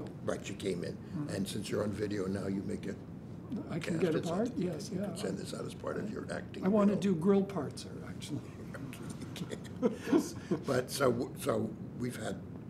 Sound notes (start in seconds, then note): 9.5 laughs